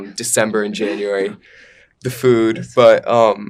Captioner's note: laughing